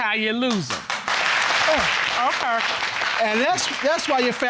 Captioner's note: audience clapping